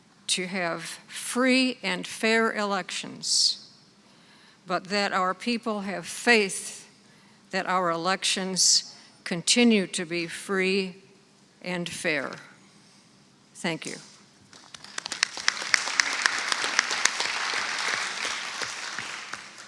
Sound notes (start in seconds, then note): 14.5 audience clapping